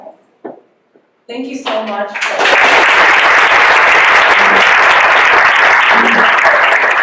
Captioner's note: applause